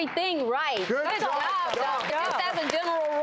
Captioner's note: audience applauding